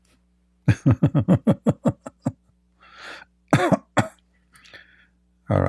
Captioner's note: Ketawa